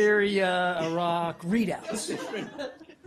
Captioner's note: laughter